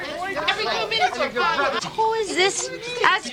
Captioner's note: arguing